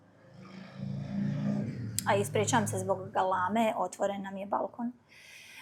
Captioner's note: snort